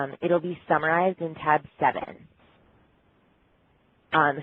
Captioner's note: pause